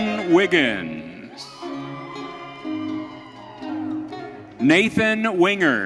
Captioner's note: audience cheering